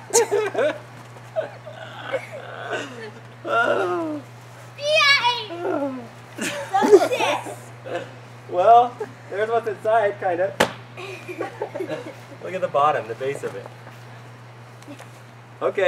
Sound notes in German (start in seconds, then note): 0.0 Beide Lachen; 6.1 Murmelt